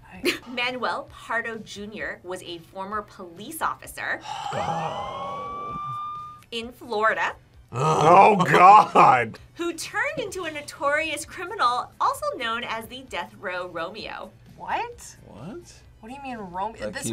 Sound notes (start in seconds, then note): 4.2 sighs